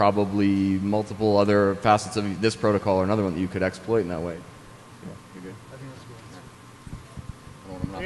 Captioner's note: off mic